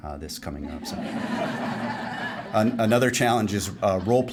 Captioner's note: laughing